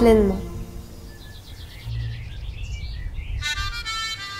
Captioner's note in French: chant d'oiseaux